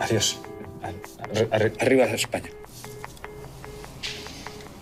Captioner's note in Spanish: tono de fin de llamada